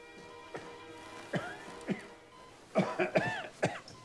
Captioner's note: Randolph coughing